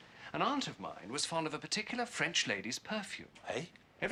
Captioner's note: none